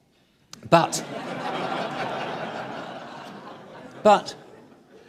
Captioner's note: audience laughing